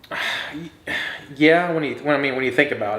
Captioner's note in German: Vater atmet schwer